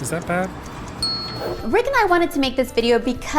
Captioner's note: bell dings